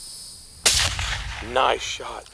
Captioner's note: gunshot